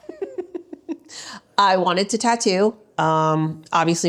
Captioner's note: laughs